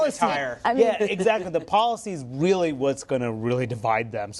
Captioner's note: laughter; laughs